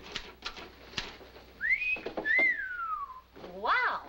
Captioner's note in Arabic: صافرات